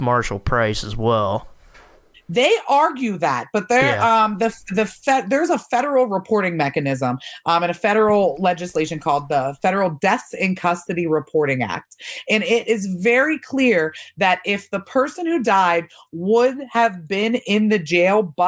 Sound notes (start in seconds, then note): 4.4 stammering